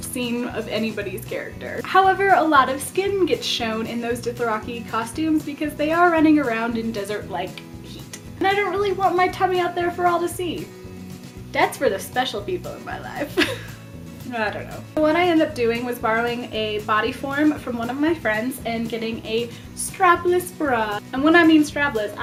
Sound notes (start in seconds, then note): 13.3 awkward laugh